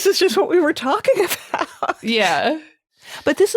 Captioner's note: laughing